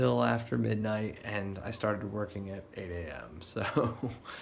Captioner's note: laughs